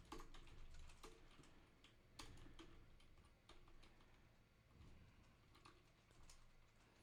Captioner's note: typing